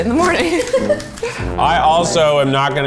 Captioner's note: laughs